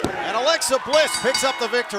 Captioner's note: bell ringing